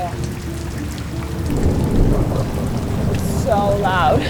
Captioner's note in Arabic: الرعد الهادر